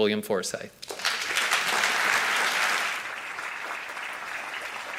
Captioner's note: audience applauding